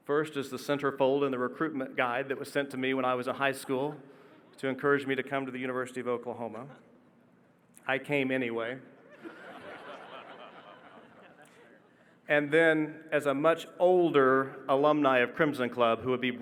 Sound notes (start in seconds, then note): 9.0 audience laughing